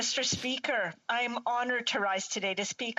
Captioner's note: speaking in french